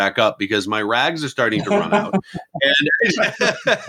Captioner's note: laughing